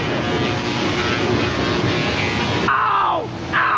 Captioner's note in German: Elektrizität summt